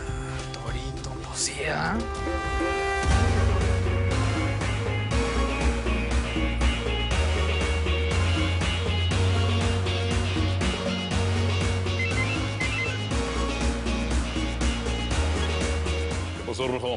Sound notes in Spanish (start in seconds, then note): 12.0 Suena el celular